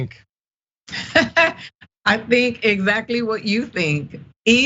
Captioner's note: laugh